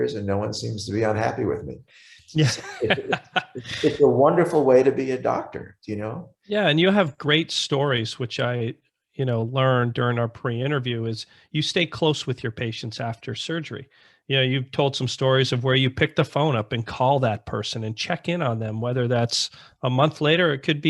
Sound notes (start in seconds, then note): 2.3 laughs